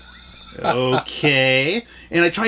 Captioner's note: laughs